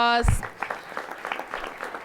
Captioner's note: applause